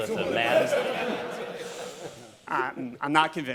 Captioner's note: laughter